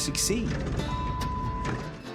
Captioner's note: vehicle beeping